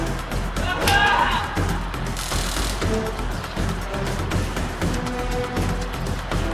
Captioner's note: Bobby yelling; stun gun crackling; strike thuds; Bobby grunts